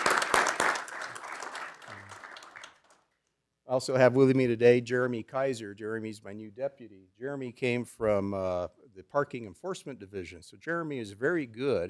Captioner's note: applause